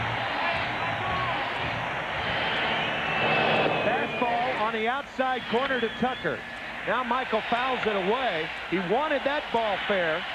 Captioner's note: cheering